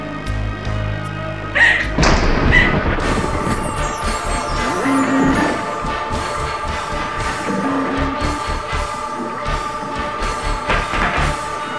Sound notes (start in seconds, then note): 2.0 door slam; 3.2 chimes; 3.8 heroic music; 10.7 hoe drops